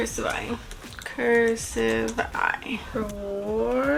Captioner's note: types